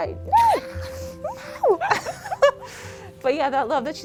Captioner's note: laugh